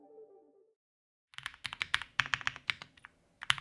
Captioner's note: typing